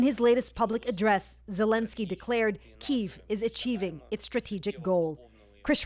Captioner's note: speaking alternate language